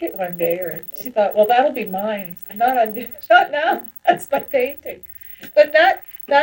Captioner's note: laughs